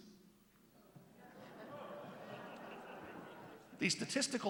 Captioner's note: laughter